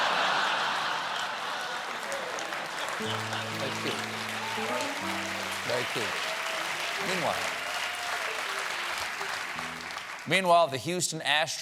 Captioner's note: laughter